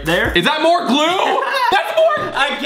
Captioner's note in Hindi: हंसी